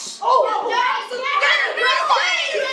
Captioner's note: yelling